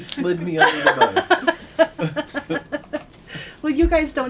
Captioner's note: laughter